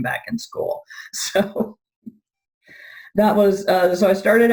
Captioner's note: chuckling